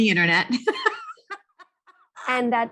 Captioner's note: laughs